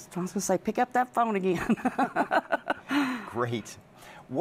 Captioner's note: laughs